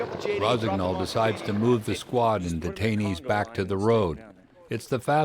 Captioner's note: voiceover